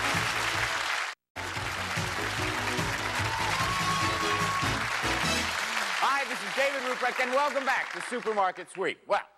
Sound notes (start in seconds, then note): 1.7 applause